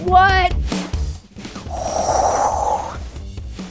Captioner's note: blowing